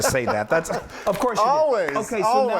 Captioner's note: laughing